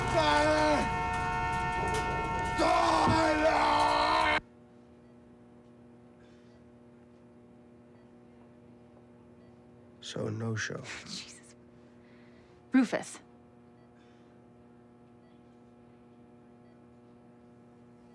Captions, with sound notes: Tyler! (car honking) Tyler! (machine beeping) So no show? Jesus. Rufus. (machine beeping)